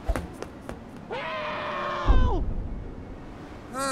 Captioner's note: screaming for help